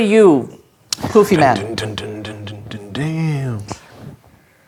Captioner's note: imitates rock guitar